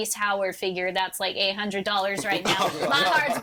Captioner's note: all laughing